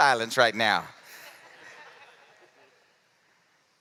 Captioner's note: laughter